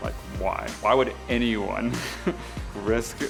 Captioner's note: laughs